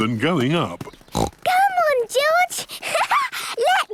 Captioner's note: snorts; laughs